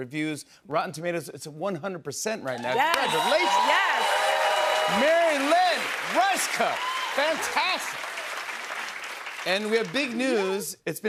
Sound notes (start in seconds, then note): 3.9 cheers and applause